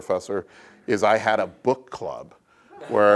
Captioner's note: laugh